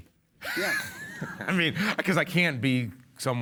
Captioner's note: Jeff laughs